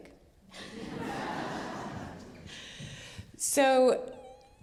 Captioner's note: audience laughing